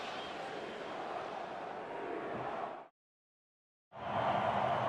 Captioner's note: crowd chanting, "seahawks"